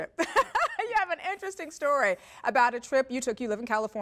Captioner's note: laugh